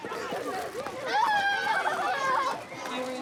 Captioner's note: girls laugh